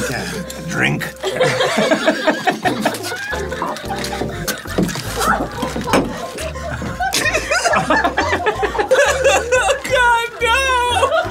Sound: everyone laughing

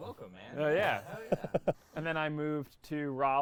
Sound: chuckles

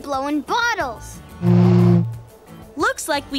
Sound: blowing

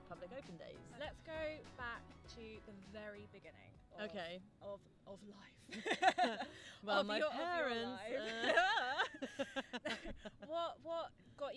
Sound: laugh

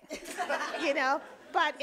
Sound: audience laughing

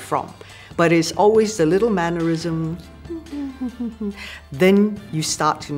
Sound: humming

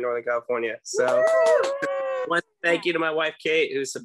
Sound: cheering and clapping

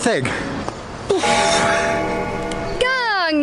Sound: bell ringing

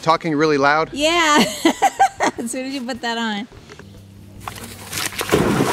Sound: laughs; splashing

